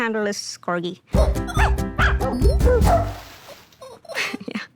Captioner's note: dog barking; laughs